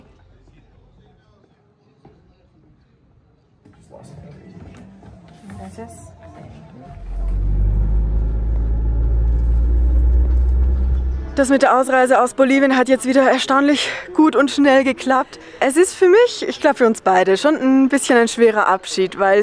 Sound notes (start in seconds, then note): 5.4 in Spanish